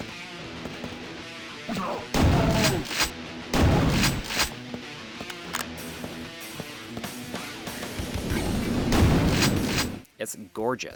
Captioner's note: Quake 2 Game Audio